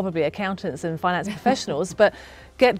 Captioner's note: laughs